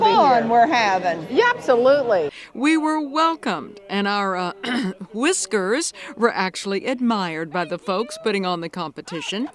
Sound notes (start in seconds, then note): 4.6 clears throat